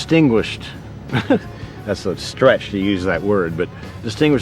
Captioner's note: laughs